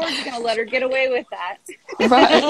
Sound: laughs

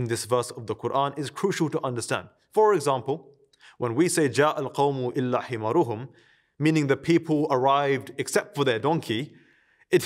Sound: Arabic

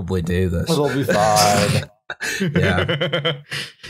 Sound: laughter

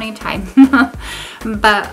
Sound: laughter

